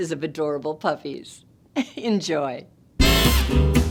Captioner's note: chuckling; energetic jazz music